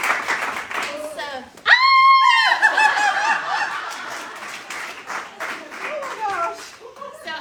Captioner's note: screaming